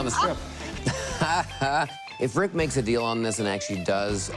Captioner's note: laughs